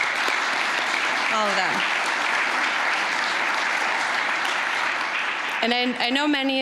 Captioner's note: applause